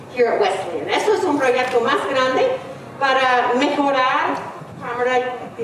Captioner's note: speaking in foreign language